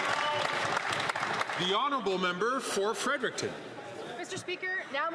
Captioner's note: some Applause